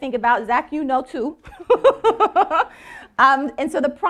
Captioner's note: laughing